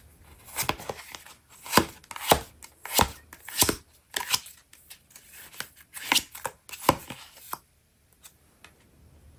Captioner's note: drawing cards